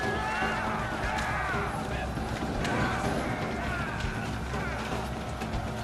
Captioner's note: yelling